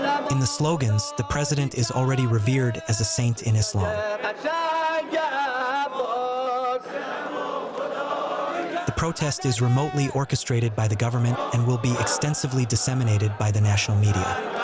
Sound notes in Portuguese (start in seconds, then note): 4.1 falando persa